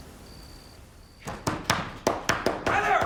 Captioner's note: banging